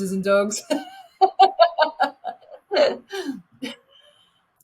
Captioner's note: laughing